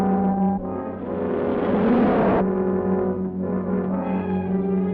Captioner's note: car zooming